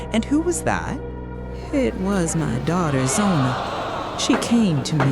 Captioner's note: crowd gasping